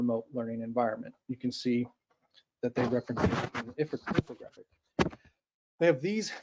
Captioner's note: static interference